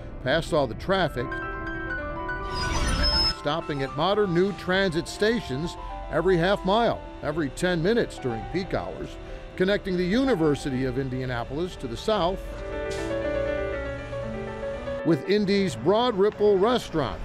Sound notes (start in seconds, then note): 2.8 wheels screech